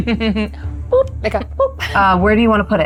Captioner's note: chuckles